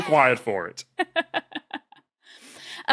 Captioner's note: laughs